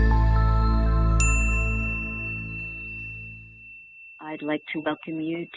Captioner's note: bright ding